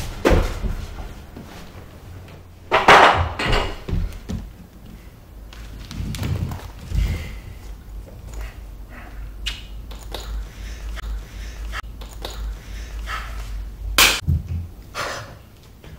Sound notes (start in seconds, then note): 14.0 clap